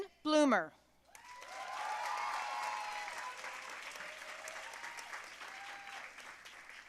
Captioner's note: audience cheering and applauding